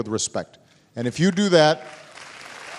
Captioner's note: applause